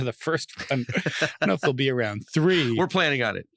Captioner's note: laughing; laughs